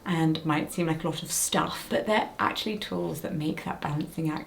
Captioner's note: none